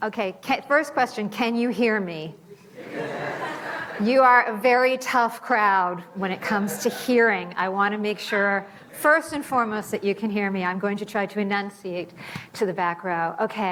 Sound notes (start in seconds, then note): 2.7 audience laughing